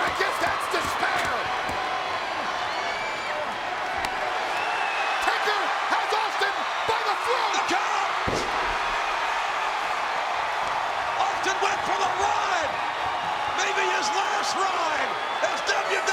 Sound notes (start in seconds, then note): 0.0 crowd cheering; 8.2 body thudding; 9.3 crowd cheering